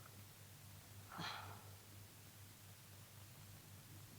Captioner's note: Cleo sighs